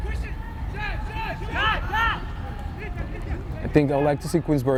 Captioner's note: players shouting